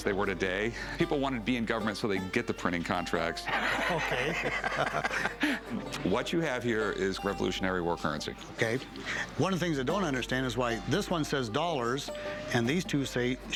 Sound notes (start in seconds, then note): 3.5 laughs